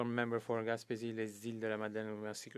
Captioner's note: speaking French